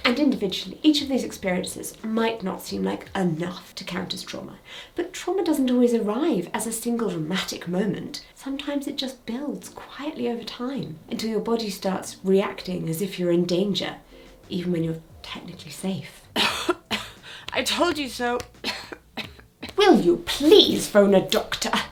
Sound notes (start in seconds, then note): 16.3 coughs